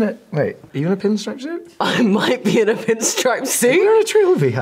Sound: laughs

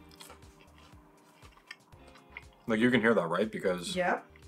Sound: crunching

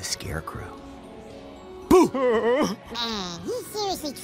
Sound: whimpers; high-pitched voice

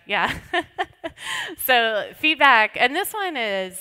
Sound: laughs

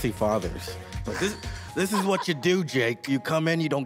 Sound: laughs

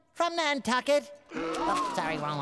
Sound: gasping

